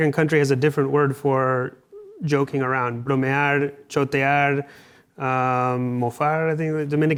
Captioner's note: speaking Spanish; speaks Spanish